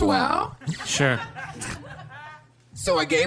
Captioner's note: audience laughter